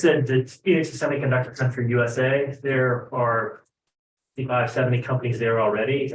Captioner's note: speaks faintly